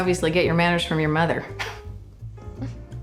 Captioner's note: chuckles